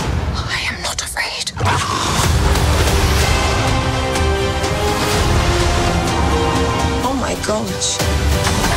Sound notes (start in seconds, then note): 1.6 tiger roars